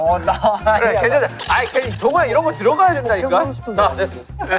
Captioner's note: arguing